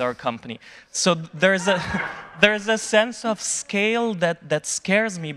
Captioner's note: audience laughing